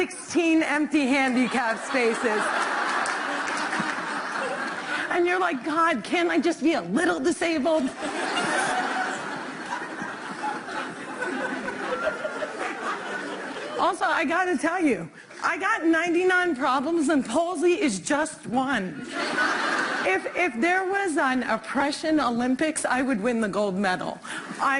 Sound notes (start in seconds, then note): 7.8 laughter